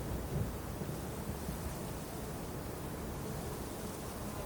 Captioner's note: wind, distant thunder